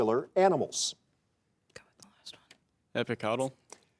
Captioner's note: students whispering